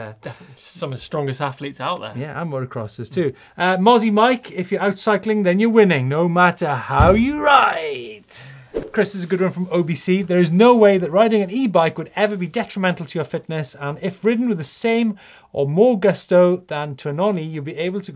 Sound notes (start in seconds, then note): 7.0 fist thumping